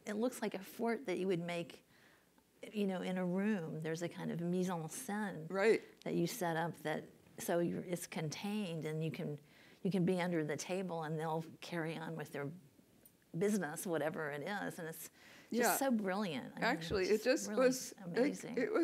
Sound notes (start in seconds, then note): 5.3 french